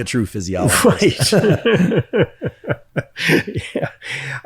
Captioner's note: laughs